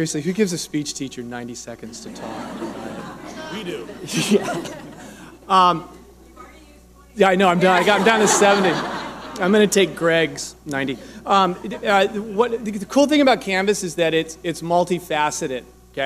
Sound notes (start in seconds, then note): 1.9 audience laughing